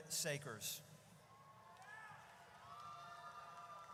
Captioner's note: audience cheers